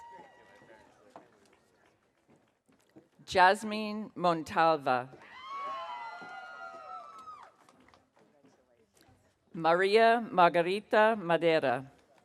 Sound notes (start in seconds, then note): 5.2 audience cheering